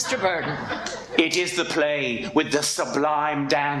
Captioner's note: audience laughs